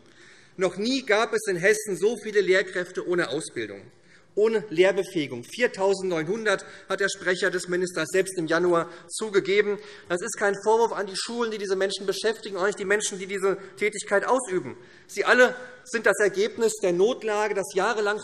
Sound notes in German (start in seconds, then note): none